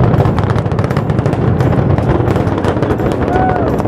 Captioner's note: crackling